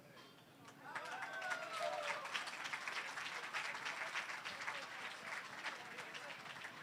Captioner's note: applause